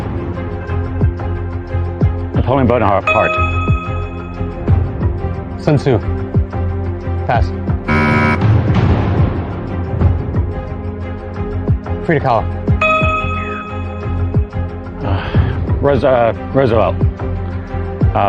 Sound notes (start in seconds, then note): 7.8 buzzer sounds